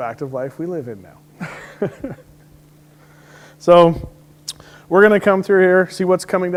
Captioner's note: laughs